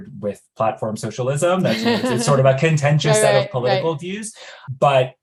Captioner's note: laughs